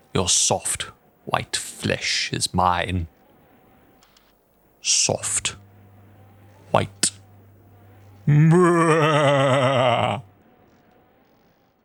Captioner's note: maniacal laughter